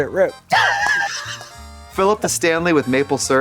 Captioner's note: Katya hee-hees